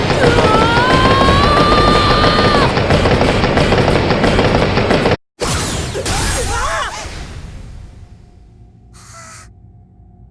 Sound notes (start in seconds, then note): 9.4 terrified